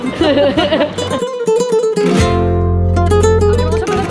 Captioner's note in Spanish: risas